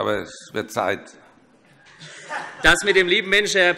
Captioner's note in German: Heiterkeit